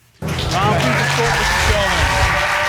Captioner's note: audience applauding